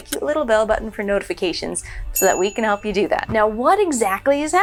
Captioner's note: ding